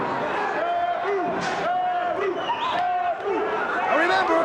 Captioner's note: spectators chanting "Sabu!"